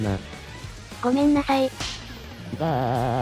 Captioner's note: smack!!